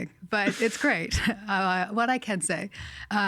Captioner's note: laughing